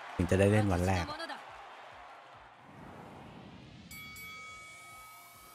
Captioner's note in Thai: ปรบมือ